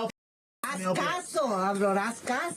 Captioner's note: woman speaking in foreign language